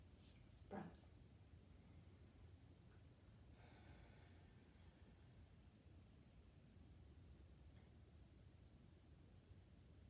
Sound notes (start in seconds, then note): 3.4 breathing deeply